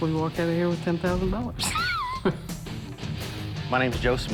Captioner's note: laughs